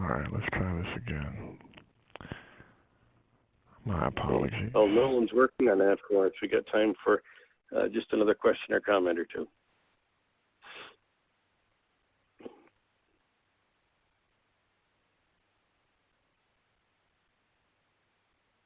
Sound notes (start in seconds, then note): 4.9 voiceover